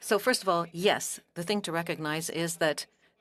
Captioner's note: speaking French